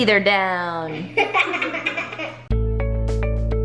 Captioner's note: kids laughing; upbeat music